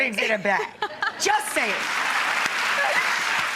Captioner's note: applause; laughing